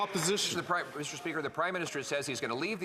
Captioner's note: some Applause